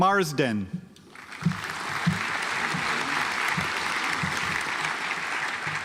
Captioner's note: audience applauds